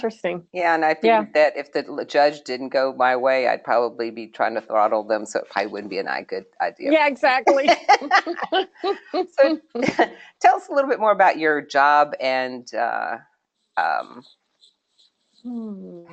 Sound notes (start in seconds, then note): 7.4 laughter